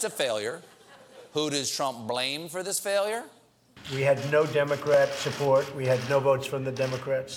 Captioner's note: laughter